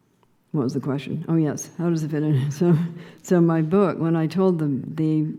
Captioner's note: laughing